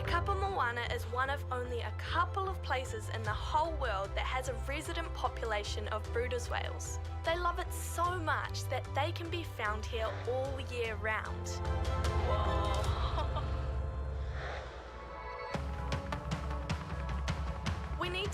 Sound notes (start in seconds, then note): 12.5 person exclaims in awe; 15.5 bright upbeat music